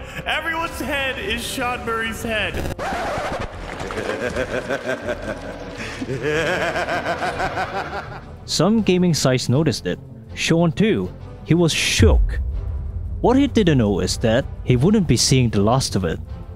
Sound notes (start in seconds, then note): 2.5 record scratch; 3.8 maniacal laugher